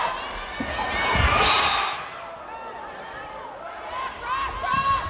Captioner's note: crowd cheering; crowd and players cheering; players yelling